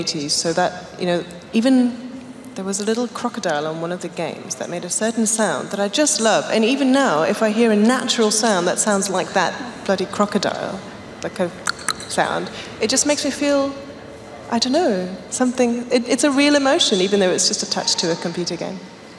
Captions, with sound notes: There was a little crocodile on one of the games that made a certain sound that I just loved and even now if I hear a natural sound that sounds like that bloody crocodile, that (clicking) sound, it just makes me feel … I don’t know. It’s a real emotion even though it’s just attached to a computer game.